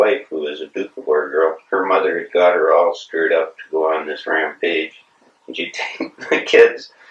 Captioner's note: laughs